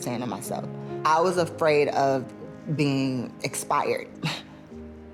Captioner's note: laughs